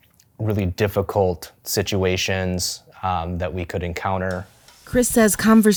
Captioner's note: none